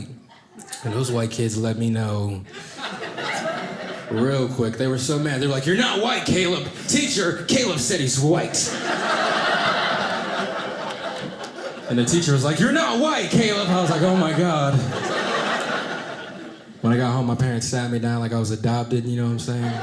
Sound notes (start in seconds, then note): 8.6 audience laughing; 14.5 audience laughing